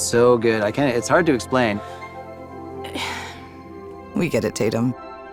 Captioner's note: exhaling deeply